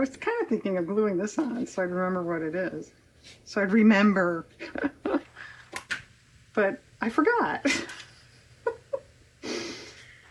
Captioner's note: laughs